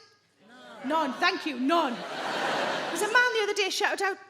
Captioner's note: audience laughing